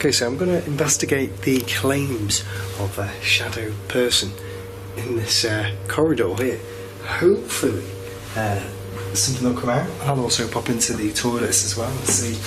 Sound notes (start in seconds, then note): none